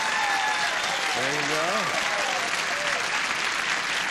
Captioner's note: cheering